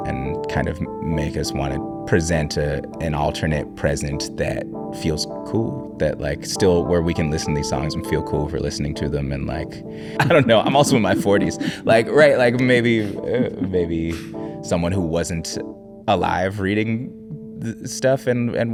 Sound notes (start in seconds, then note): 10.1 laughing; 13.8 chuckling